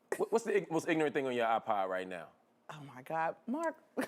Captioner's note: laughter